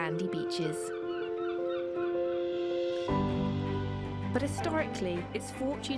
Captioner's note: gentle music; seagull caws